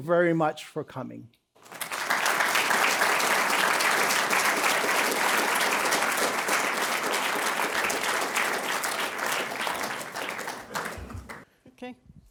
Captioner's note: applause